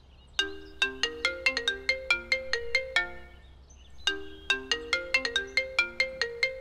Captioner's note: Phone ringing